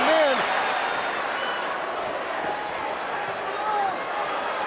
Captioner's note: audience cheering